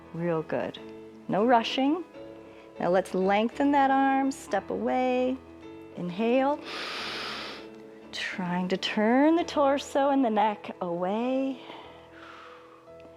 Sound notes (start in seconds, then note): 6.6 inhales